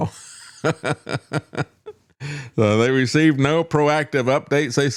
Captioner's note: laughs